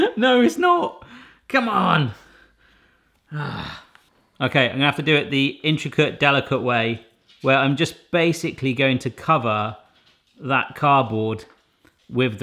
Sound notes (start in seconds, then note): 3.2 exasperated sigh